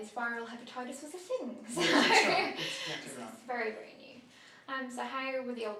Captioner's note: laughter